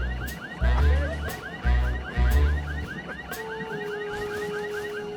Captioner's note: car alarm wailing